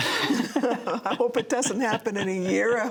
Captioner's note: laughter